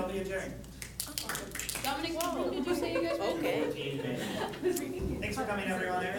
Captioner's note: clapping